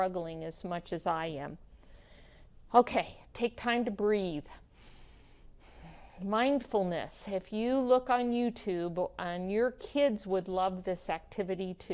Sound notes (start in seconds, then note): 4.9 deep Breath